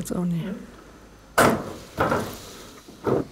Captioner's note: clacking